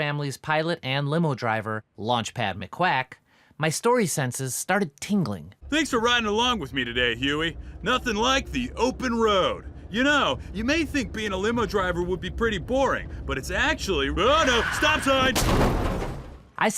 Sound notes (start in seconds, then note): 14.3 brakes screeching; 15.2 crashing